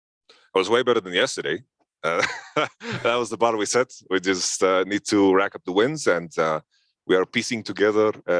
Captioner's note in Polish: śmiech